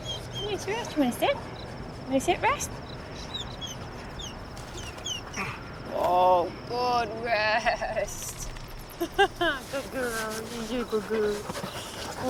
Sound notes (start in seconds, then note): 2.7 dog whimpering; 9.0 woman laughs